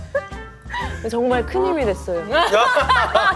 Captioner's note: laughs